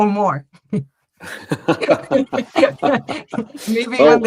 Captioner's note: laughter